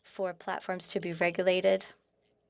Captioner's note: speaking French